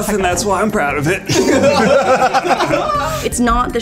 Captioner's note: laughs